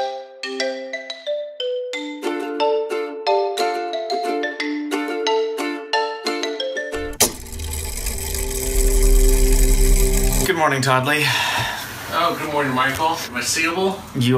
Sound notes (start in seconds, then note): 6.9 mechanism whirring; 11.2 sighs heavily